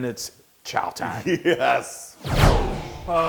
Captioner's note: laugh